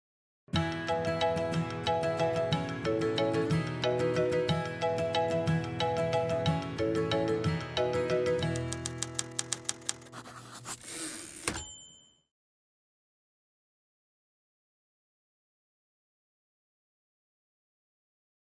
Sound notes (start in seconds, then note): 8.5 typewriter sounds; 11.3 typewriter dings